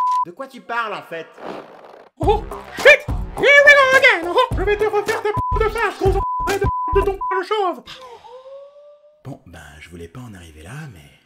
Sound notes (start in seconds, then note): 5.3 bip